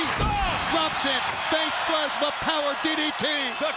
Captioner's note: Scott exclaims